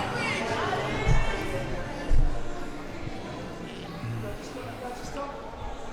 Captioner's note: none